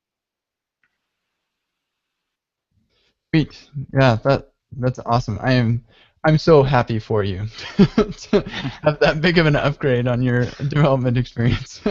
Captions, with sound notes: - Neat, yeah, that's awesome. I'm so happy for you. (laughs) Have that big of an upgrade on your development experience.